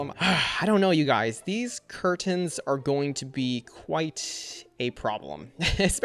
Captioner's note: chuckles